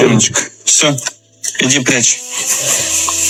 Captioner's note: russian dialogue continues